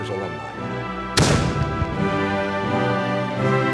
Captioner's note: cannon fires